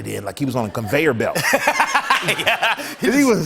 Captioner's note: laughs